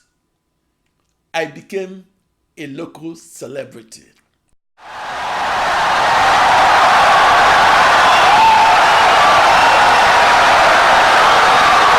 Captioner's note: wild applause and cheering for 17 seconds